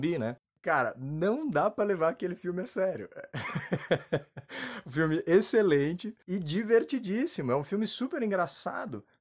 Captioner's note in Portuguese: Risos